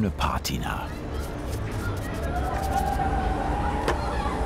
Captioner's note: bubble of voices, children's exuberant screaming